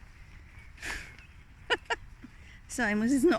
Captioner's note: laughter